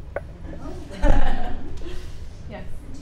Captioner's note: participants laughing